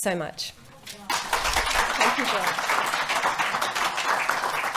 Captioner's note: applause